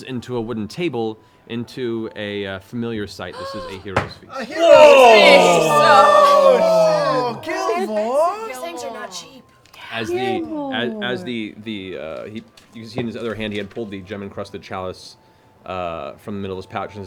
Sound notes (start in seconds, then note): 4.3 cheering